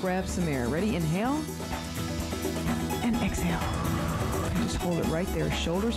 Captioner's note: breath hisses